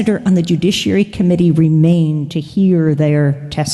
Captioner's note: none